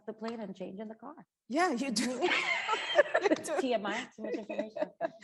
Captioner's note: both chuckle